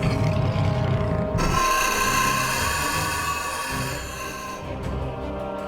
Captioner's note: scorpion beast growls; scorpion beast shrieks